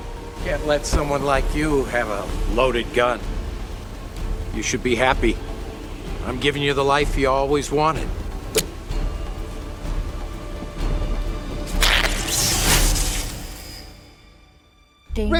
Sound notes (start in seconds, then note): 8.6 knife flicks; 11.6 energy crackles